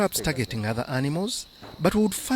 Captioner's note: laughs